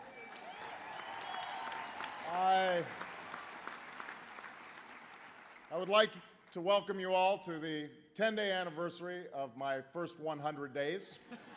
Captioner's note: applause